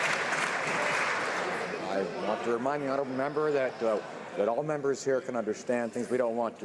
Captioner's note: some Applause